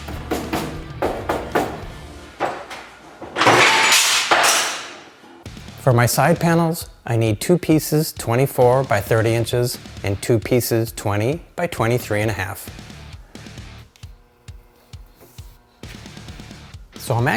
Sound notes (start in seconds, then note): 0.2 knocking; 2.3 metal clangs; 12.6 intense rock music